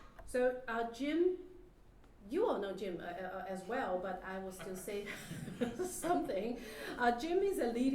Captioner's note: laugh